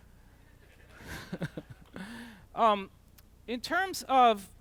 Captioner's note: chuckles; laughter